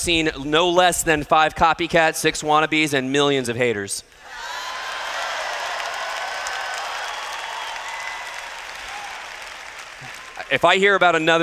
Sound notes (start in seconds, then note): 4.2 cheers